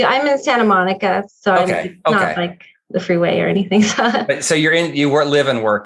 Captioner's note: laughs